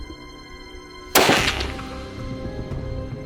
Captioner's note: shot